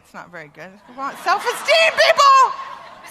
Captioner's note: laughter